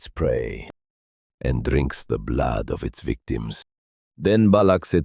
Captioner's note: whispering